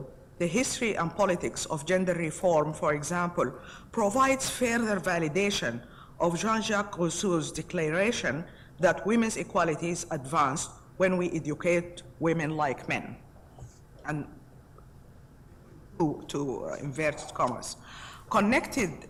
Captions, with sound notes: Delving into the history and politics of gender reform, for example, provides further validation of Jean Jacques Cousteau's declaration that women's equality is advanced when we educate women like men. And, to (voice is muffled).